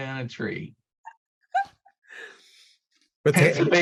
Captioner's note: laughing